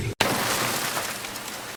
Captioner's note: static crackling